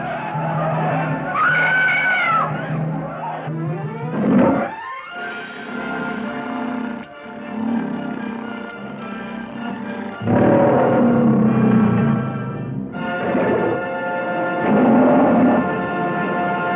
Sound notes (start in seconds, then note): 1.3 Pamela screaming; 3.8 lion roars; 5.0 epic adventurous music; 9.6 lion roaring